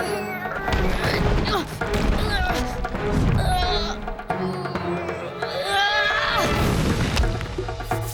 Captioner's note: grunting